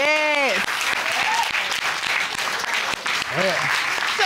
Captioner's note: applause